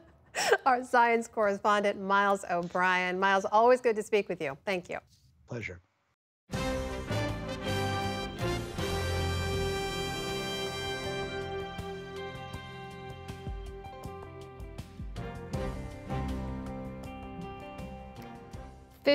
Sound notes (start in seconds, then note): 0.0 laughter